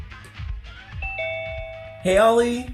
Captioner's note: bell dings